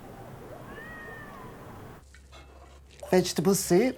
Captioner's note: cat meowing